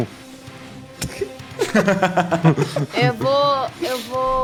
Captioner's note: laughs